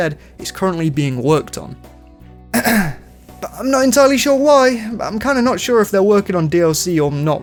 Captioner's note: ahem